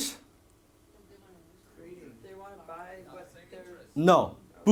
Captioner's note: crowd talking simultaneously